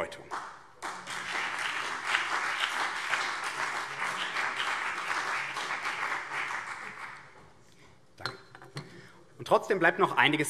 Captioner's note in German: Beifall BÜNDNIS 90/DIE GRÜNEN und CDU